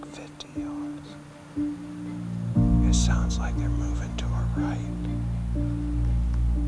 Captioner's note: whispering